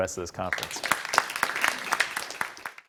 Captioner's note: audience applauding